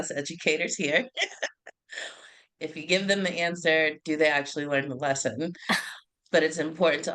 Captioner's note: laugh